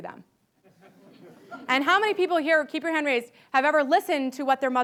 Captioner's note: laughter